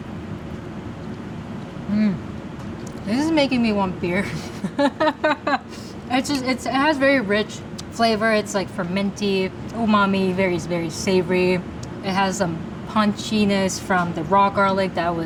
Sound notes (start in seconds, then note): 4.4 laughing